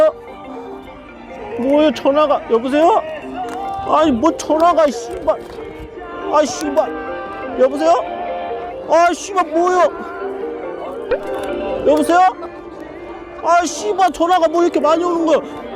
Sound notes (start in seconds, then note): 0.1 the 10th telephone bell; 1.9 the 11th telephone bell